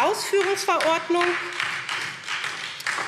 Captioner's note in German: Beifall SPD